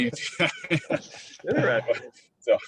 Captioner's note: all laughs